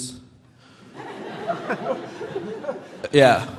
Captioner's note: audience laughing